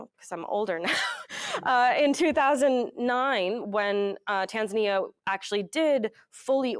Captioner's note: chuckles